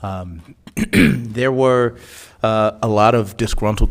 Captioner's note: clears throat